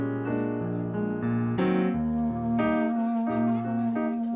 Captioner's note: chattering